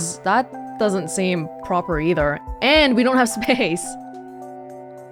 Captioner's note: chuckles